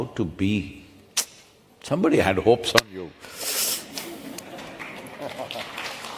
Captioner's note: laughter/Applause